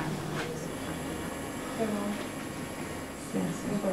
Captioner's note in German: Maschinen brummen